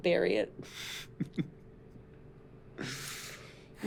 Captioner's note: chuckling